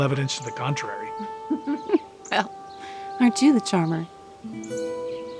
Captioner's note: chuckles